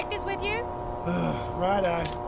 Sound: groans

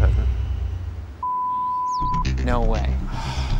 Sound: beep

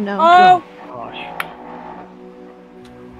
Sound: eerie noise

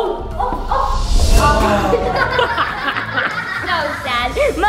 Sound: laughter

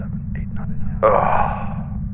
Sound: frustrated grunt

